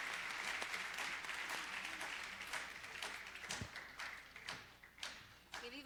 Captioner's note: applause